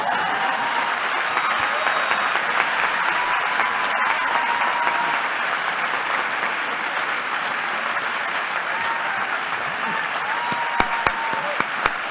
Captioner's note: applause